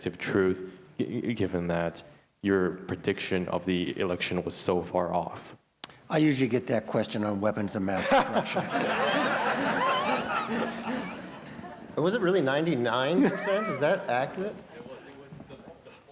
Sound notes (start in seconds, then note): 8.0 laughter